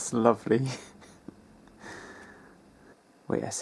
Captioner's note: titters